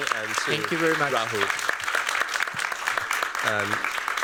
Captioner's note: applause